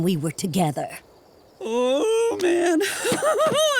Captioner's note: laughing